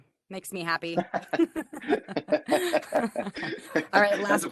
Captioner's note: laughter